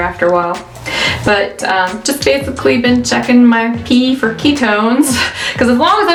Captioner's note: laughs